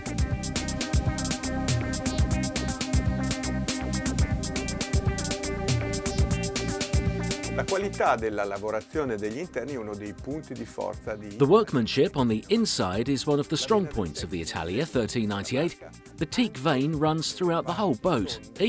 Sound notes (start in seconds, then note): 0.1 soft electronic music; 7.7 speaking foreign language